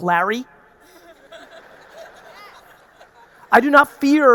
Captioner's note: audience laughing